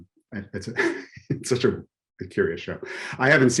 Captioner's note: chuckles